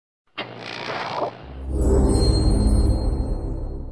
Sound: TV static and magically epic sounds

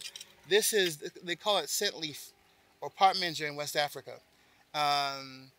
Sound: speaks in foreign language

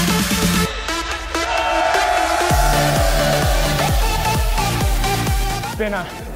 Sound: cheers

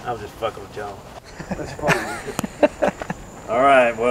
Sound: laughs

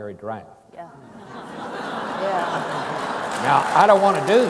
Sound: audience laughs

